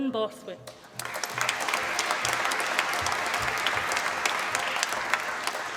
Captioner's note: applause